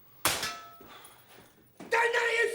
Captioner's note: metal clinks